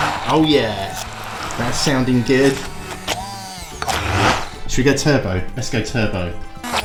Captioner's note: hand blender noise; hand mixer noise